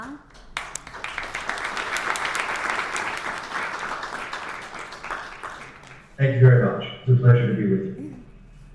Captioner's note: applause